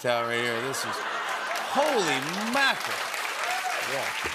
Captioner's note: cheers and applause